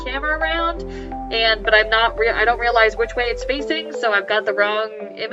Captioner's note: stammers